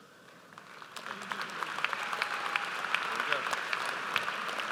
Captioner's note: audience applauds